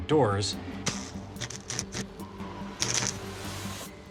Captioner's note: zapping